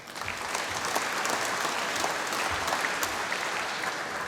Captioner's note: applause